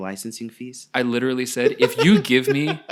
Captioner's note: laughing